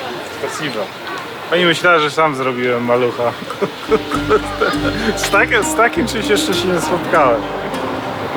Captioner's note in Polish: śmiech